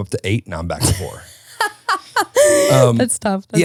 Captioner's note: laughing